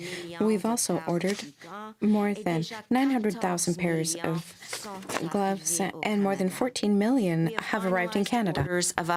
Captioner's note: speaking french